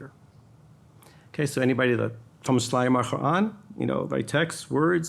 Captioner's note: speaking in foreign language